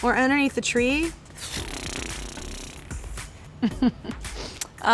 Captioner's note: blowing raspberry; chuckling